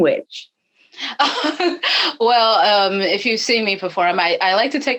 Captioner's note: laughing